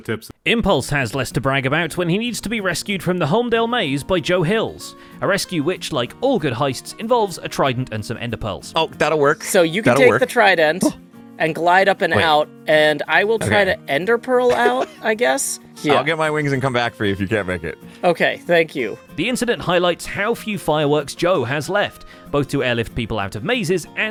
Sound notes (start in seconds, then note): 14.4 laughs